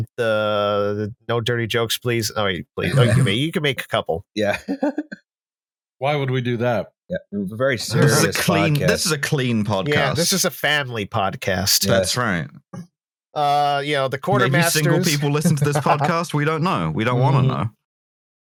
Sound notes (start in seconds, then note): 2.8 snorts; 4.5 laughs